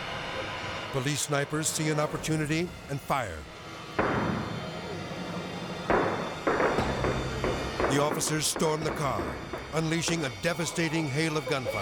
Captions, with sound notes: Police snipers see an opportunity and fire. (gunshots booming) The officers storm the car, unleashing a devastating hail of gunfire.